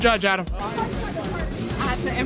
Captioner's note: background talking